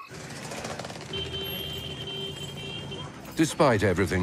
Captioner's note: cars honking